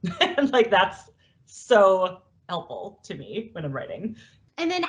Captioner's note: laughs